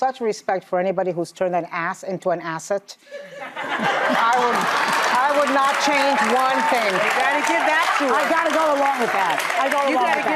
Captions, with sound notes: I have such respect for anybody who's turned an ass into an asset. (audience laughs) I would not change one thing. You gotta give that to her. I gotta go along with that.